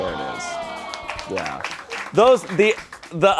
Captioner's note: crew applauds